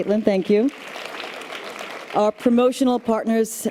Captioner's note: audience applause